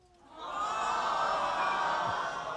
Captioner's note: crowd